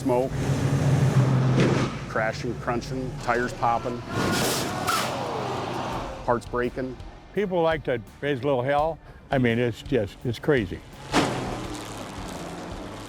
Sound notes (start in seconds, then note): 4.2 combines crashing together